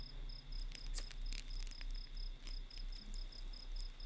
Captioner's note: fire crackling